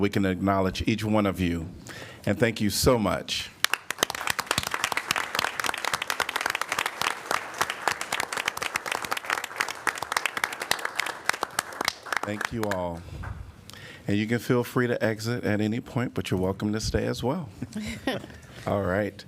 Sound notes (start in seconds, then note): 3.6 applause